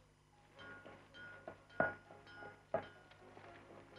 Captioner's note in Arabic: صوت المطرقة